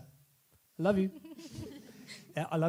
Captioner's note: laughs